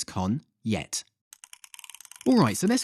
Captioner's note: clicking